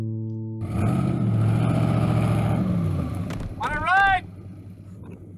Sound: engine revving

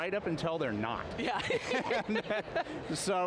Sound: laughing

